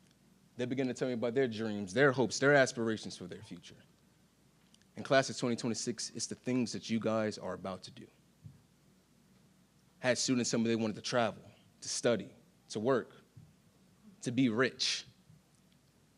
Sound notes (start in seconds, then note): none